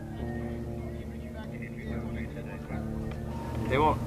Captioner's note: people chattering on radio